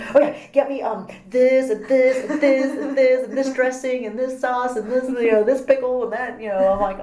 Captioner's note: laugh